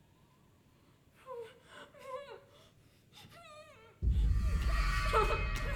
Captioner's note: Catherine crying